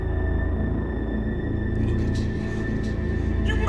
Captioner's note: disembodied Voice